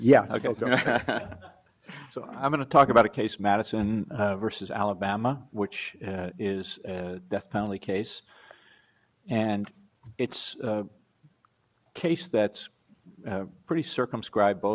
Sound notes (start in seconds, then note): 0.6 panelists laugh